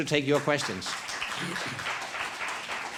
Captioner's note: applause